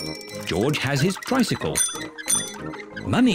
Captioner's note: rings bell